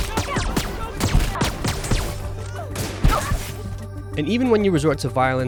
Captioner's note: gun blasting; characters shouting